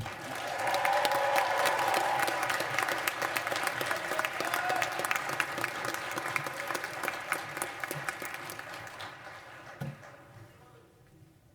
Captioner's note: cheers and applause